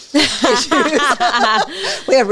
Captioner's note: both laughing